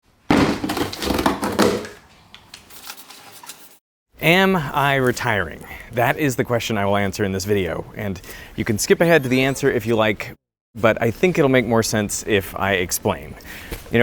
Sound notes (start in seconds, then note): 0.2 cardboard thudding; 0.2 cardboard crunching